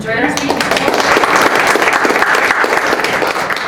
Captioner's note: applause